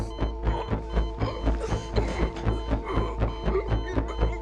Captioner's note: hear monitor alarm